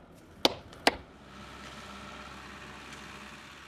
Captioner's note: excavator humming in the background